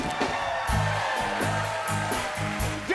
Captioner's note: cheers and applause